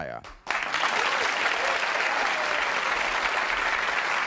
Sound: audience applauding

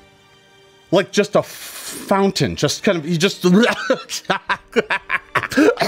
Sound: laughing; gagging

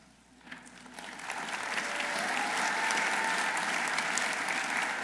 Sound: audience applauding

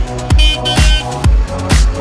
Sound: honk honk

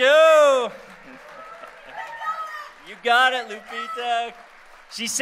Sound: applause

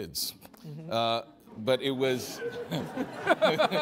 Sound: audience laughing

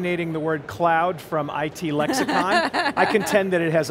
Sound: laughs

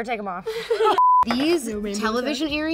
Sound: group laughs; beep

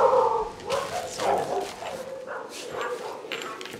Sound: dog barking

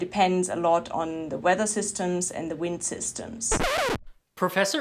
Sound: record scratch

